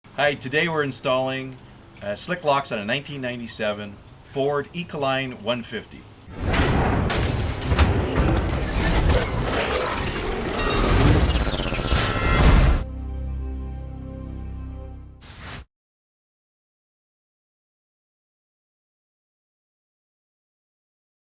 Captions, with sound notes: - Hi, today we're installing Slick Locks on a 1997 Ford Econoline 150. (banging) (low droning)